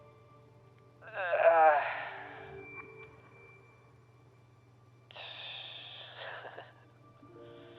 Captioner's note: chuckles